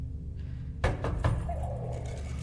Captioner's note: bussare alla porta